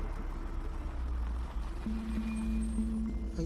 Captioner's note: brakes squeal